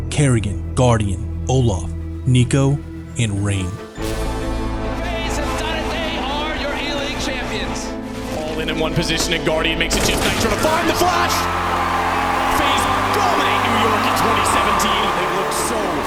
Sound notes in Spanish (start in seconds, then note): 12.1 el público vitorea